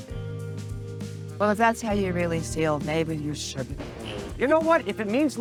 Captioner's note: voiceover